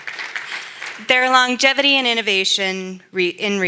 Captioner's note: applause